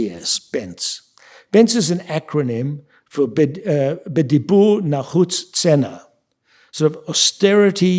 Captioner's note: speaking yiddish